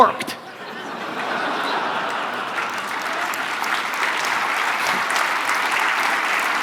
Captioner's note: audience laughter and applause